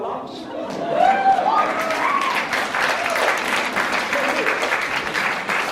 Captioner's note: cheers; applauds